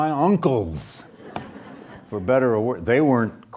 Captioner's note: audience laughs